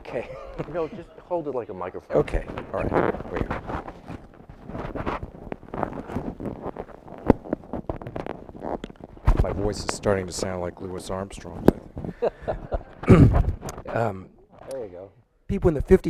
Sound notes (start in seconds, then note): 12.1 laughing